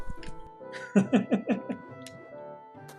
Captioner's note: laughs